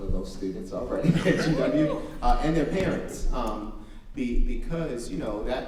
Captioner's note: audience member cheers